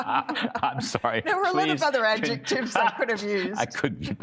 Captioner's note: laughter